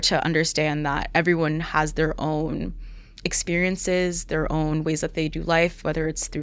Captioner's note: none